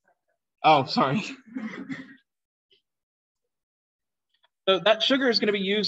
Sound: laughter

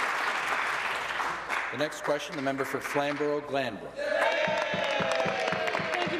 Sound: applause

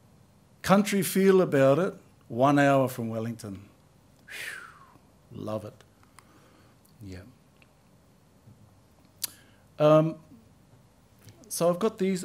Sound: exhales

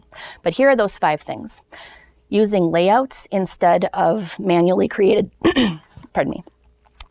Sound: coughs

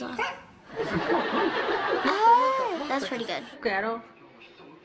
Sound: audience laughing

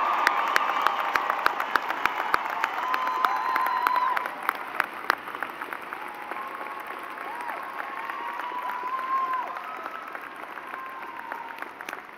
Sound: cheers and applause

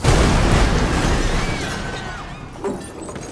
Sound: people screaming

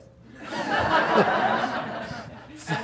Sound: laughter

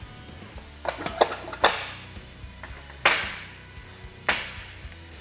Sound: metal clinking

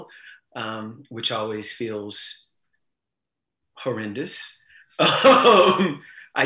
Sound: laughs

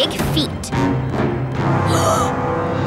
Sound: gasping

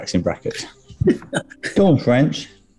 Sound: chuckling

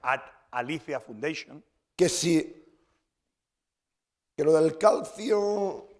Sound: speaking spanish

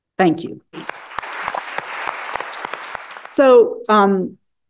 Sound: audience clapping

